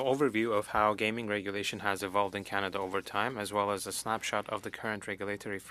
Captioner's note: speaking French